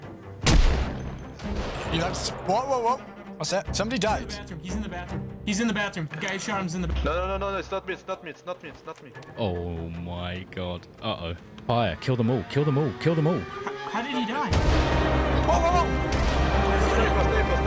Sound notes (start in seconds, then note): 0.4 gunshot; 0.4 gunshot echoes; 14.5 gunshot; 16.0 gunshots